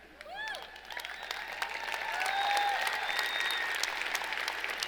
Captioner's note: cheering and applauding